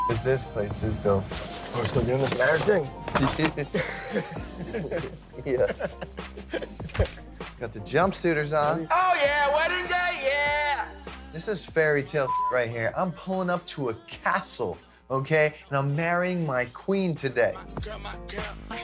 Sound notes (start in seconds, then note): 0.0 beep; 3.4 guys laugh; 12.2 beep